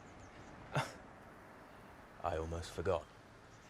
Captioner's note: James chuckles